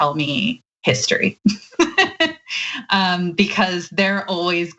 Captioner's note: laugh